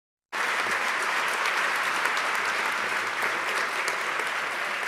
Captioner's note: audience clapping